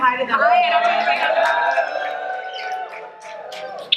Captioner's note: crowd cheering